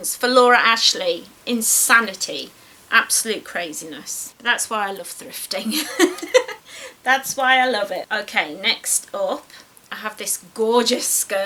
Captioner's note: giggles